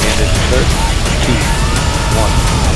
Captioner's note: cheering